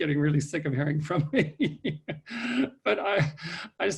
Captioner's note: laughs